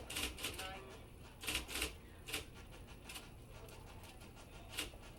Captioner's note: typewriter clacking